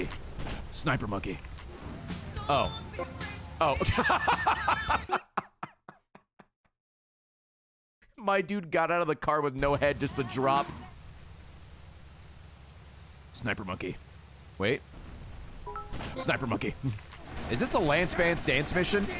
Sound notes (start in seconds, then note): 3.8 laughs